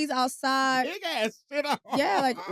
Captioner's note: laughs